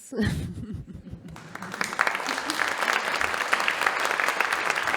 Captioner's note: audience applauding